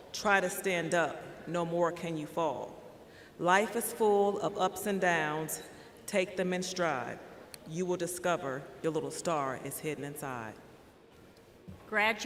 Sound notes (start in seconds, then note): none